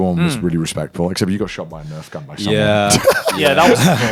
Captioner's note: laughing